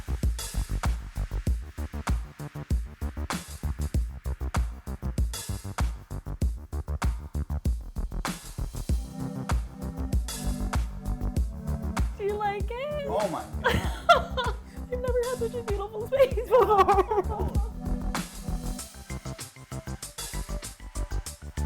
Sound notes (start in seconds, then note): 0.3 upbeat music; 13.6 chuckles; 19.0 upbeat music